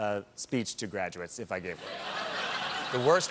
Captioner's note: laughter